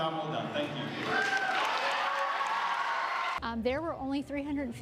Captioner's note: cheering